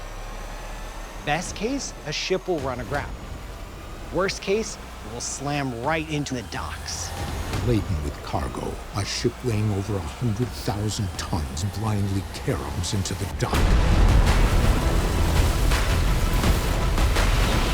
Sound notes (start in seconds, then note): 13.5 intense music; 13.5 materials crumbling